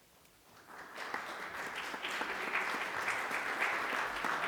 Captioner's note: applause